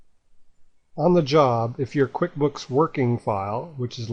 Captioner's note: voiceover